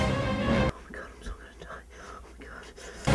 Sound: whispers to himself

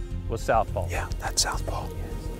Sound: whispering

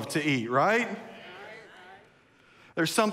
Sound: congregation murmurs

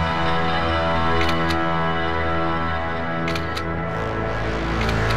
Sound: camera snapping; dark ambient music

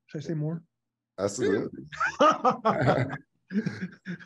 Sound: laughs

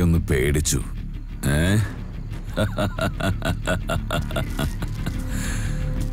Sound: laugh

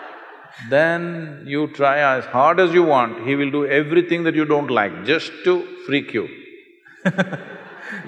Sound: laughter; Nani laughs

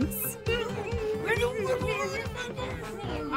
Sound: moaning

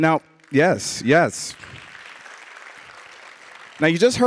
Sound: audience applauding

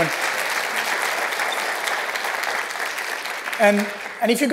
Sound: applause

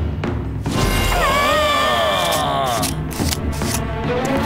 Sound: wet sloshes; powerful exclamations; scissors cut

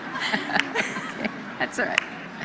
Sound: laughter

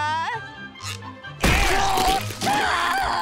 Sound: screaming

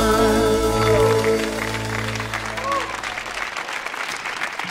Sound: audience applauds

